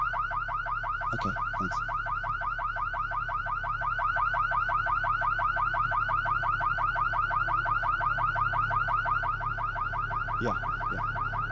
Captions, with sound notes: Okay, thanks. (car alarm blaring) (car alarm blaring) (car alarm blaring) Yeah, yeah.